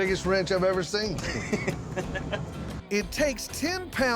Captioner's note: chuckles